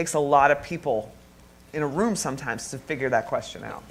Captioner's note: none